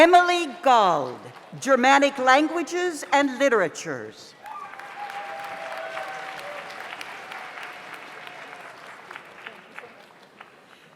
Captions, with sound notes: Emily Gald, Dramatic Languages and Literatures. (audience applauds) (audience cheers)